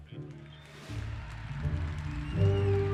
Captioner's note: crowd cheering